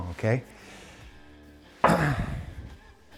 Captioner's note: sighs